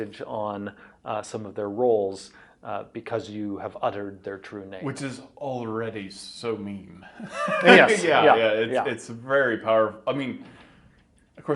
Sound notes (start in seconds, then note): 7.1 laughs